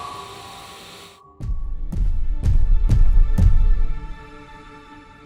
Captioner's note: thudding footsteps